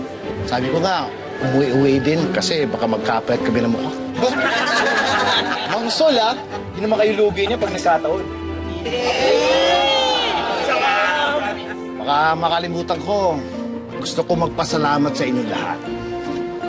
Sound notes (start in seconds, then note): 4.2 everyone laughing; 10.3 overlapping chatter